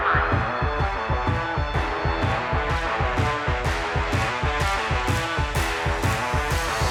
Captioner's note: siren wailing